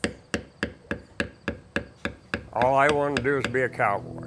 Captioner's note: hammering